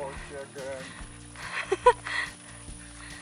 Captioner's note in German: Lachen